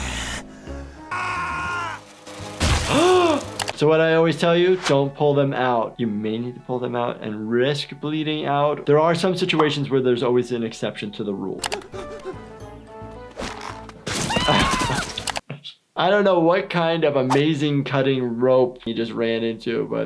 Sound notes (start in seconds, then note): 1.0 Russell screaming; 2.9 gasps; 11.6 quirky music; 12.0 Lumpy gasping